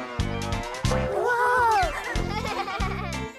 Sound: laughing

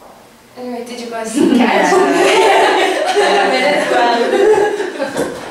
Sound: laugh

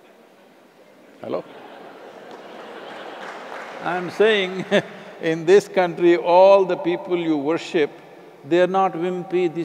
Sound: laughter; laughs

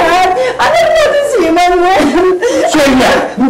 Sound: cries

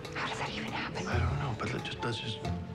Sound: whispers

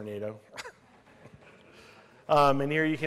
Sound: laughter

